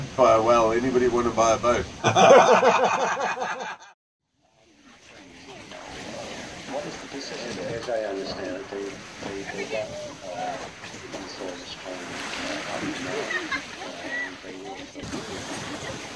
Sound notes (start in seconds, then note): 2.0 laughs; 13.0 laughter